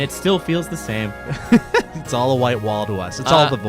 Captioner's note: laughs